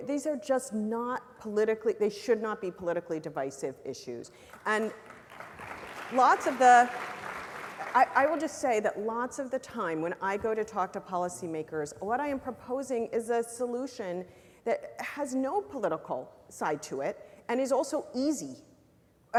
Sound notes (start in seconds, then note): 4.4 applause